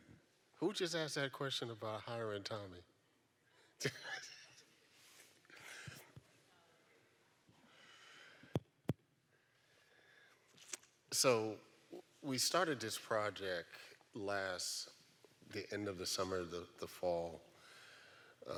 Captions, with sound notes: Who just asked that question about hiring Tommy? (laughs) So we started this project last, the end of the summer, the fall.